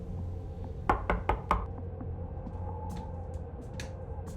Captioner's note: door knocking